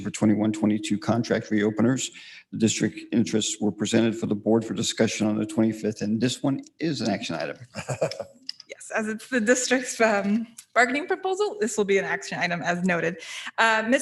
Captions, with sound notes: for 21-22 contract re-openers. The district interests were presented for the board for discussion on the 25th and this one is an action item. - (laughs) - Yes, as it's the district's bargaining proposal, this will be an action item as noted.